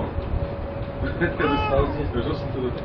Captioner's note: Gülüyor